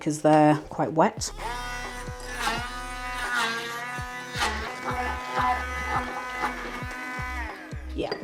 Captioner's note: blender whirring